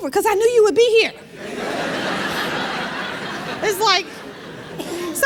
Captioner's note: laughter